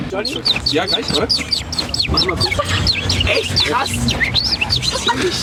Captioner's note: imitates birdsong